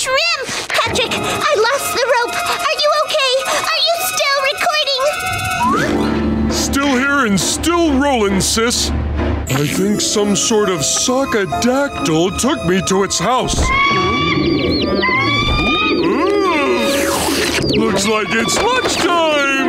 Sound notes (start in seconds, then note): 13.6 Mama Sockadactyl screeching